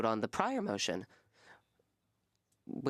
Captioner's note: speaking French